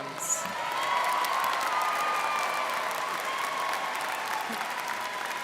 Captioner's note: students cheering and applauding